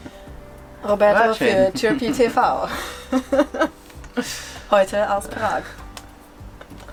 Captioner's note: laughing